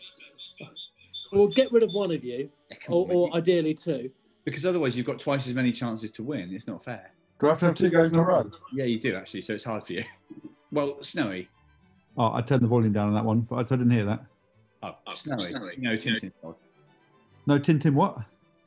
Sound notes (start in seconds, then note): 1.1 echoes as feedback; 7.4 echoes; 14.8 distorted and echoing